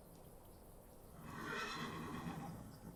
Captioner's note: horse whinnies